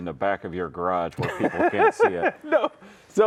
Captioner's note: laughing